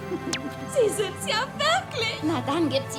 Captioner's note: giggling